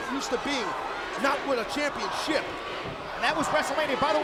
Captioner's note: crowd chanting